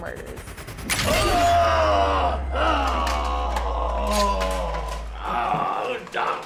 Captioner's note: flesh squelching; person groaning